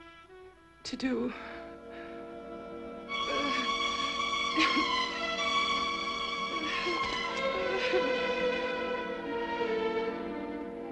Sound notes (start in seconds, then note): 3.5 Ruth whimpering; 6.8 eerie orchestral music